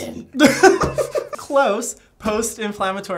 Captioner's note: laughing